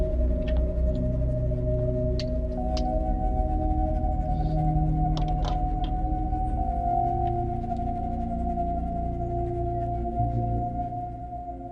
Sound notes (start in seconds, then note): 2.6 fuel tank door clattering; 6.3 soft ominous tone continuing